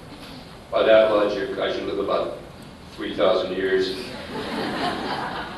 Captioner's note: laughter